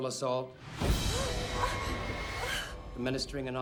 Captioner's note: gasping